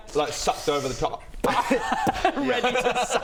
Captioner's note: pop